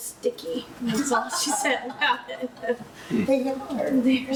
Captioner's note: laughs